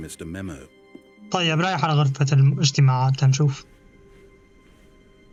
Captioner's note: footsteps